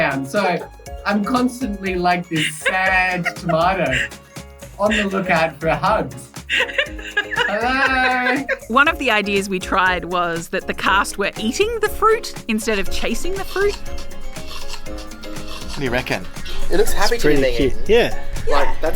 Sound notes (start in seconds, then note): 6.4 giggling; 14.4 soft crunching